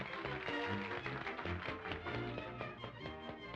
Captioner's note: applause fades